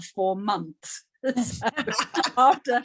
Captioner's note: laughing